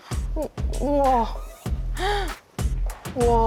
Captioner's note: already impressed voice